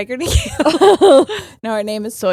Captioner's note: both laughing